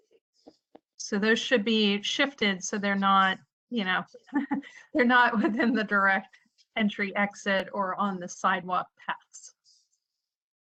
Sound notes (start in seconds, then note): 4.2 laughter